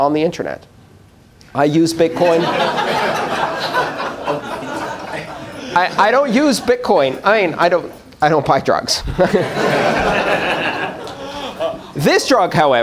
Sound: laughter

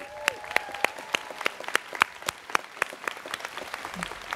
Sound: students clapping

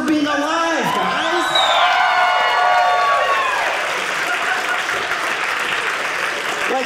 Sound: audience cheering

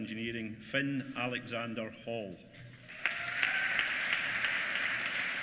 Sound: applause

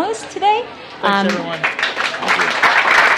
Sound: applause

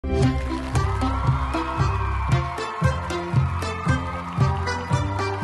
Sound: cheerful music; crowd cheering

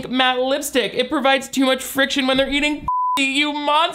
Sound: beep

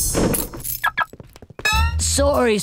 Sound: beeping

